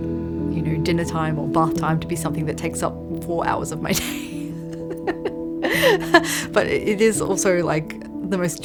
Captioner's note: laughs